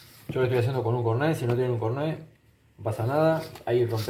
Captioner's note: scratch